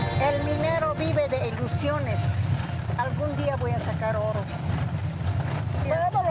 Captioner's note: speaking in foreign language